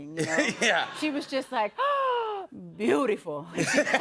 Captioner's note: gasps